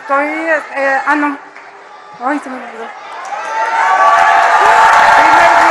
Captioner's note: applause